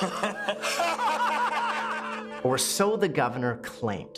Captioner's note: laughter